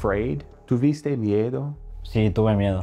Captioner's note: speaking in foreign language